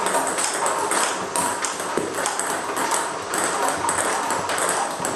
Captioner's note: ball ping pong hitting continues